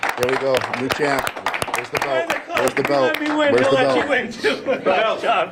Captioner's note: applause